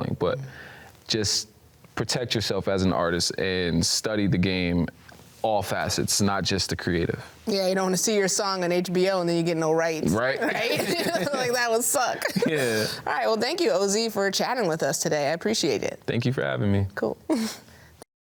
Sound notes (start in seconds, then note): 10.3 laughs